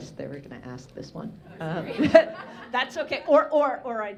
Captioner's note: audience laughing